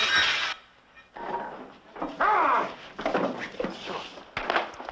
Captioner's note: glass shattering; shouting